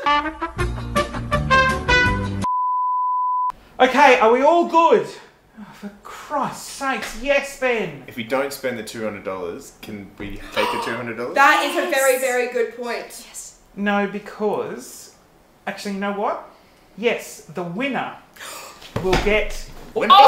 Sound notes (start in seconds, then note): 0.0 upbeat trumpet music; 10.3 gasps